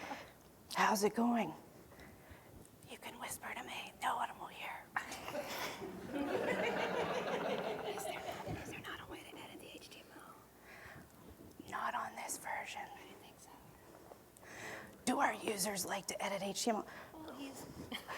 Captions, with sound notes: How's it going? [Whispering.] You can whisper to me. No one will hear. [Audience members laughing.] [Whispering to audience member.] Do our users like to edit HTML?